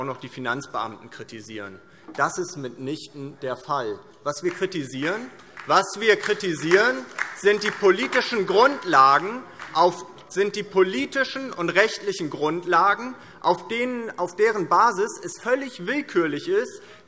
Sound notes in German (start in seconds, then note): 4.4 Beifall DIE LINKE